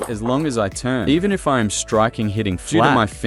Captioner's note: hitting flat